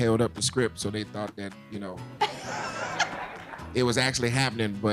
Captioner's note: laughing